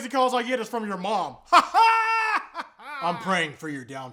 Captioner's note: insane weird laughing